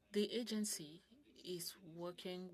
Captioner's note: speaking French